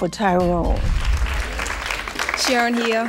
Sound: clapping

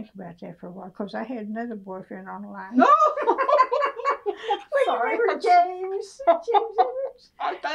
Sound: laughter

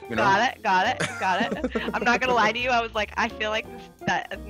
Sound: laugh

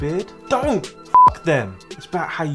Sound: beep

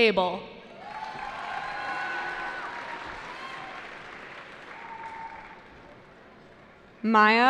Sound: cheering

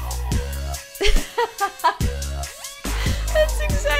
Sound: laughs

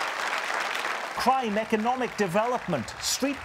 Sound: applause

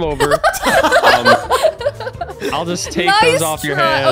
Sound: laughing

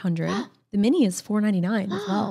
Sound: gasps

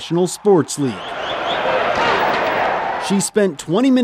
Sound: cheering

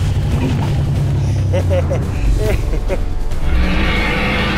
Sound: T-rex growling; laughing; T-rex roaring

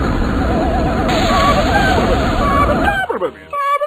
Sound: grey alien speaks in alien language

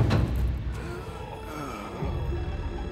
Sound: groaning

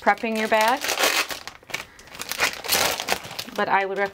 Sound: bag rustling

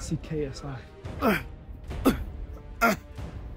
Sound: grunting

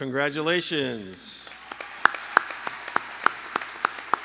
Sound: lead applause

